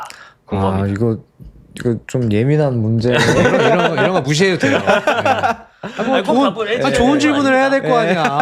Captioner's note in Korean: 웃음